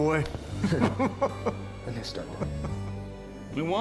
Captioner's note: chuckling happily